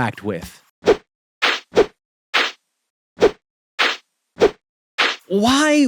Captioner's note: whipping